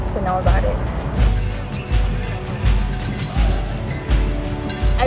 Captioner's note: bells ringing